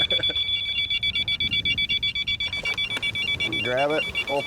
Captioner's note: laughs; beeping